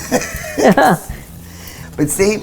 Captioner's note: laughing